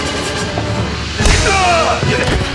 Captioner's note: grunt